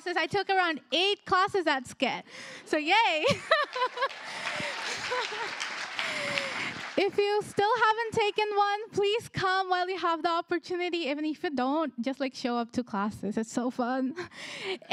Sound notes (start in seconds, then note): 3.2 applause; 3.3 chuckles